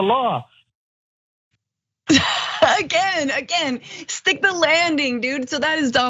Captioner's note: laugh